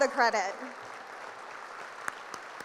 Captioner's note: applause